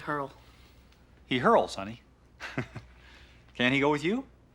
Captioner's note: chuckles